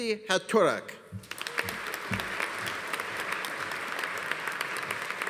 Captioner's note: audience applauding